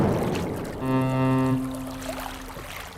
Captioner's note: ferry horn blows